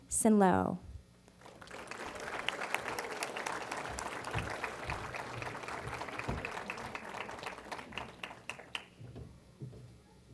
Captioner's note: applause